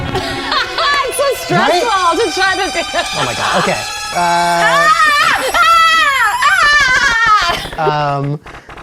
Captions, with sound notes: - It's so stressful to try to... - Oh my God, okay. (loud ringing) (screaming)